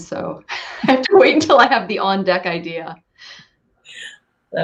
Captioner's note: laugh